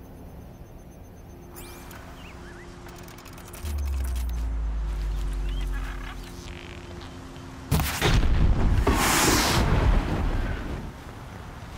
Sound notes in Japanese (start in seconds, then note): 7.8 爆発